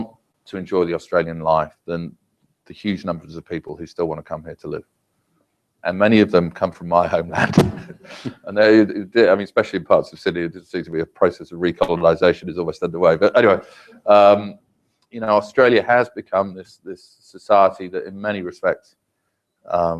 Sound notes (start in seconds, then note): 7.2 laugh